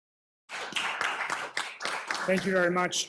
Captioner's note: applause